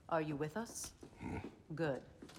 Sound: grunt

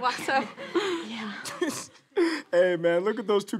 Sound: laughter

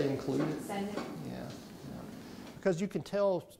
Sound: voiceover

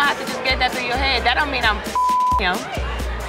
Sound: beep

